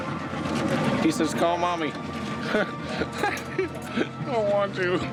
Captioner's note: laughs